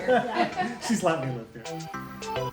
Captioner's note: laughter